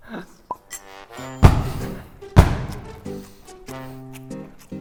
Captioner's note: nom, nom